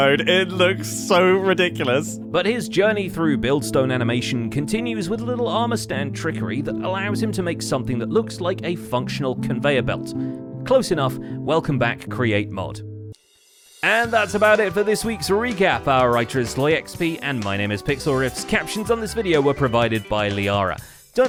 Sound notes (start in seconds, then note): none